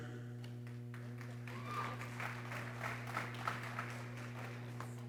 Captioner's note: people cheering